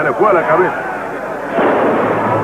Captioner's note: all yelling